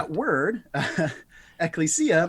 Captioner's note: speaks Greek